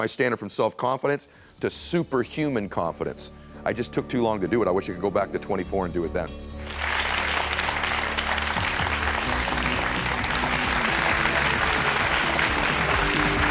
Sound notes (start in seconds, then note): 6.5 upbeat music; 6.6 audience applauds